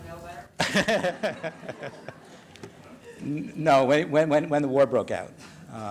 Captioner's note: laughs